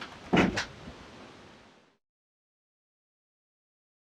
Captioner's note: door slams